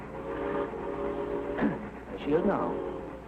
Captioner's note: train whistle blowing